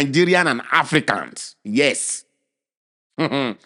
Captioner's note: chuckles